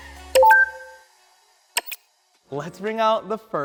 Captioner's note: electronic clicking